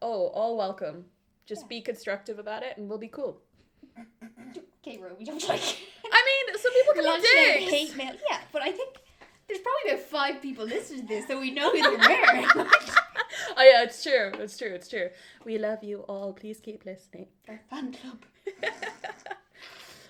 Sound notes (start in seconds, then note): 3.8 sniggers; 11.1 laughter